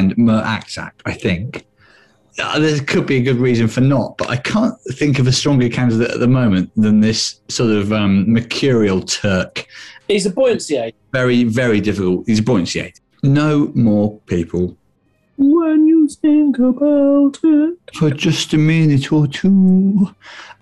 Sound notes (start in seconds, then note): 15.3 falsetto